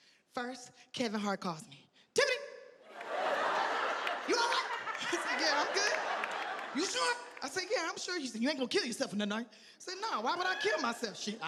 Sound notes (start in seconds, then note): 5.6 audience laughing